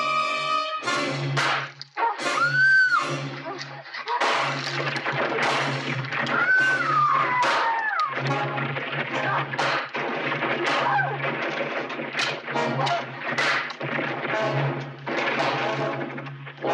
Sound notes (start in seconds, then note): 0.9 ax thudding; 2.4 Lady Haloran screaming; 6.4 Lady Haloran screaming